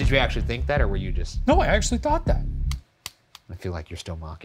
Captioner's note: pointer slapping